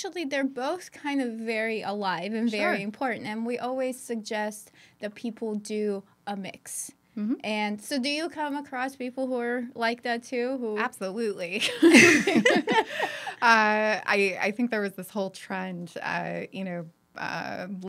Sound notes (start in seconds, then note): 11.8 laughing